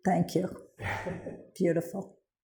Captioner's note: chuckles